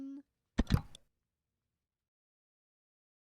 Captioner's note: click